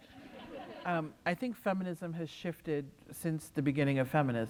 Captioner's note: laughter